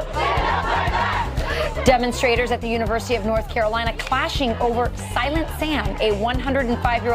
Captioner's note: crowd chanting